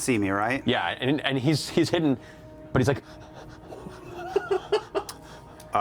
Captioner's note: scared, heavy breathing